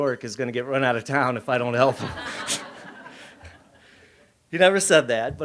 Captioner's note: laughs